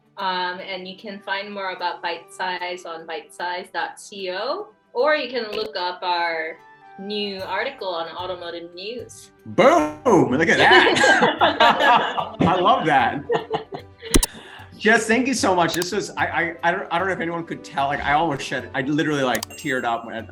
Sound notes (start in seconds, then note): 11.1 laughs; 13.1 laughs